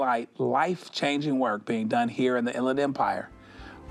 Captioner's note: none